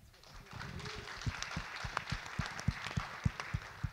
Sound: audience clap

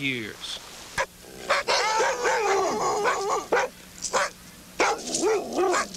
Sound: dogs barking

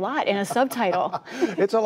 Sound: laughter

